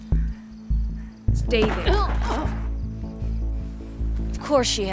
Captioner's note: Evelyn groans